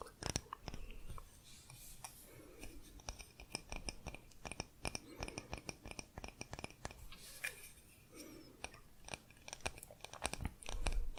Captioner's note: tapping on stone